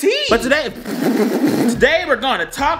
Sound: blows lips

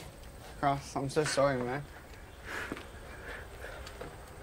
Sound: distraught

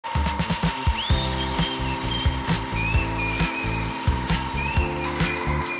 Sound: playful upbeat music; lawn mower whirring

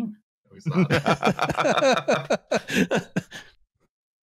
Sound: laughter

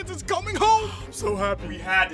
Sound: sighs

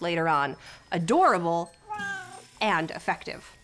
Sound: Tigress meows

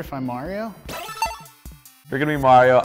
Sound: beep

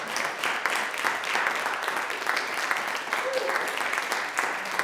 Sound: audience applauding

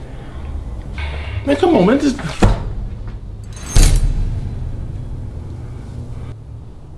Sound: loud thud, glass tinkers

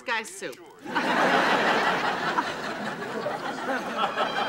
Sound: audience laughing

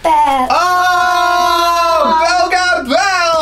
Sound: cheering

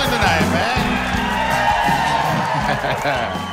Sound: cheers

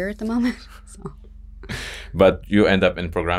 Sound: both laugh

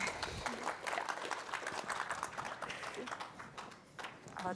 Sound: audience applauds

